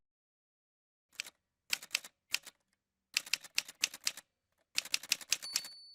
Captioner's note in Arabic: أصوات آلة كاتبة